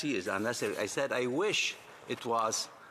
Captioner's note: speaking French